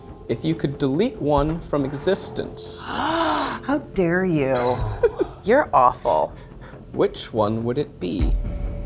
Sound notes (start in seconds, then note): 1.7 gasps